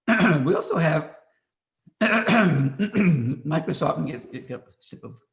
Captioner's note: clears throat